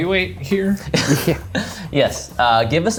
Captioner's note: laughs